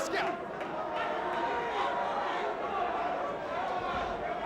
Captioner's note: crowd chattering